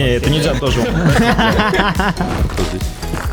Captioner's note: laughter